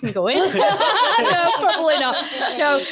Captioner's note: audience laughs